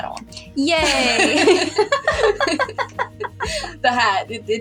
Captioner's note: both Laugh